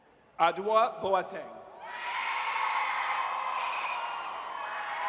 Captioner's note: audience cheers